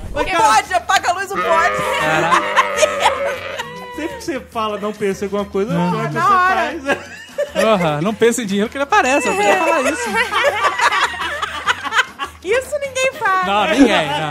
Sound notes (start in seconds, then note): 1.3 goat mooing effect